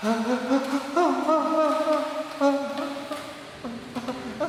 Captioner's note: Jack cries